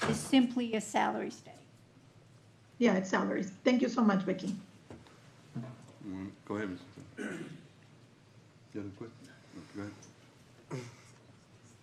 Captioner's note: clears throat